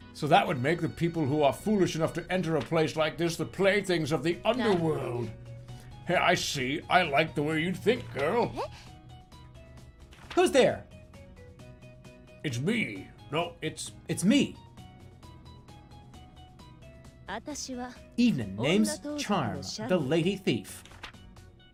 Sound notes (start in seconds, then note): 13.7 changes voice